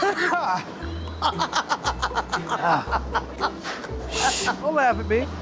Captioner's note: coughing hard; laughs